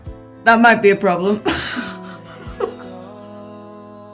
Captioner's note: laughs